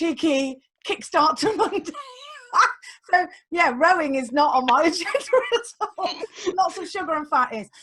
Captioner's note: laughs